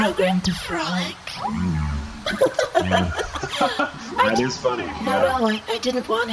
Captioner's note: forced giggle